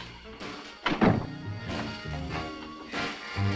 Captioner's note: door thuds; upbeat music